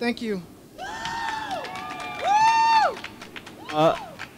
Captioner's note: crowd cheering